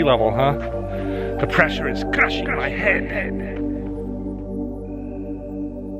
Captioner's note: echoes